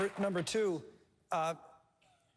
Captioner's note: applause